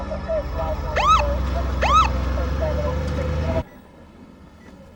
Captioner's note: siren wails